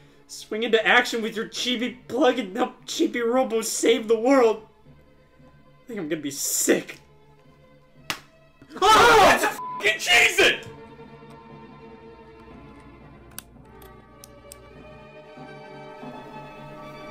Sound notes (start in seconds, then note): 9.6 beep; 14.3 suspense music